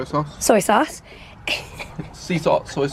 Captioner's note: chuckling